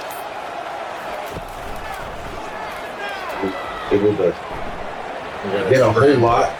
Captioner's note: crowd Noises